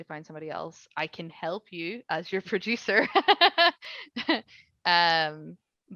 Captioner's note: laughing